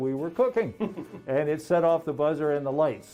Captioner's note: laughing